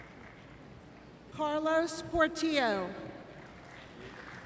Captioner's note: applause